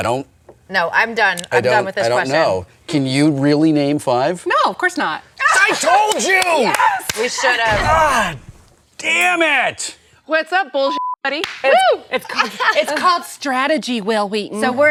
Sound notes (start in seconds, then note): 10.9 beeps